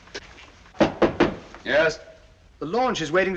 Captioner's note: knock at the door